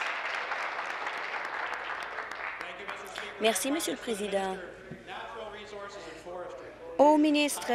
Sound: applause

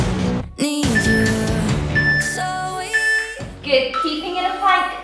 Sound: timer beeping

